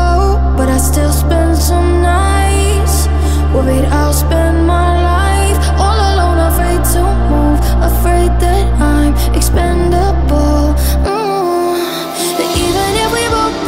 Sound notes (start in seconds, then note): 11.0 mmm